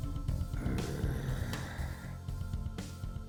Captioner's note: growls